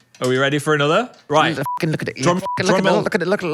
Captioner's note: beep